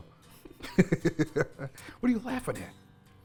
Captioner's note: laughter